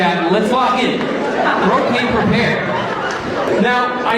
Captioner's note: laughing continues